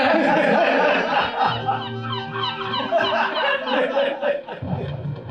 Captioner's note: seagulls, jazz